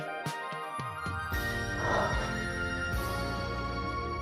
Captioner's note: exhale